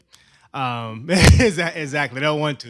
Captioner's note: laughs